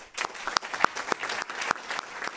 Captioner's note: applause